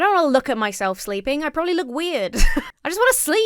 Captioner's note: chuckles